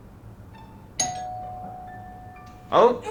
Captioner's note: doorbell rings